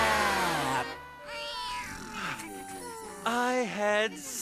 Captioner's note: all snoring